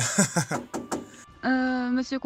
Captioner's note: knocking